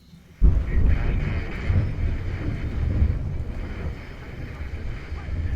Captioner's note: warbled radio dialogue amidst a thunderstorm